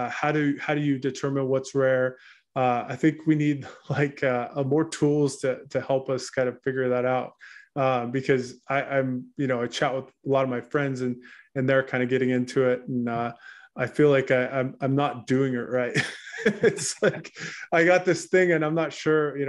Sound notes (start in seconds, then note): 15.9 laughs